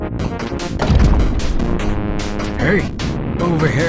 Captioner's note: bang!